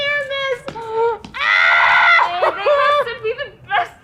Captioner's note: screaming